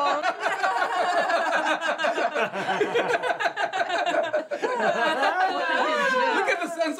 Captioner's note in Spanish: Risas